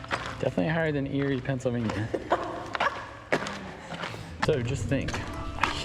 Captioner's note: laughs